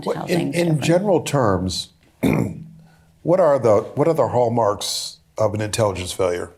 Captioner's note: clears throat